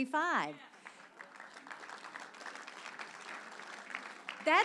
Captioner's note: audience applause